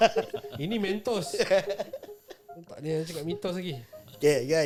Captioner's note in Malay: ketawa